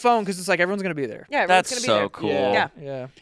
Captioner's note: none